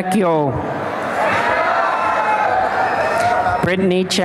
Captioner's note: applause and cheering